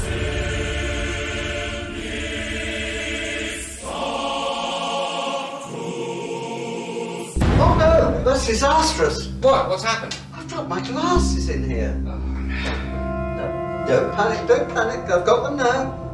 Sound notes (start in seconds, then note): 0.2 choral music swells; 7.4 bang